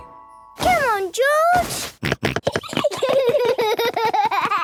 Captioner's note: George snorting; both giggling; George laughing